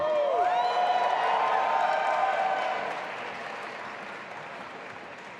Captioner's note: audience applauding and cheering